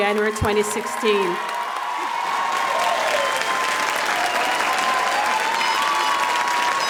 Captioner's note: audience applauding and cheering